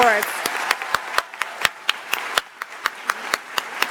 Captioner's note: audience applauds